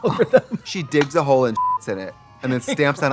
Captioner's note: beep